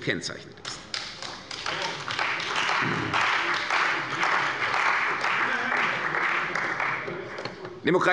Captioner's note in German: Beifall bei der CDU und dem BÜNDNIS 90/DIE GRÜNEN